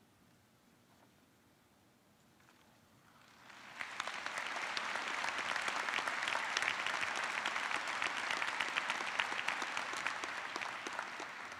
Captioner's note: applause